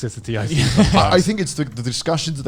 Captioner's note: laughs